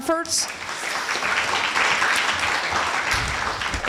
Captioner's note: applause